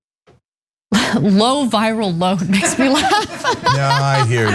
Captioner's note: laugh